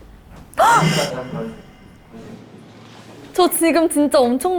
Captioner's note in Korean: 이분 님의 소스라치게 놀라는 소리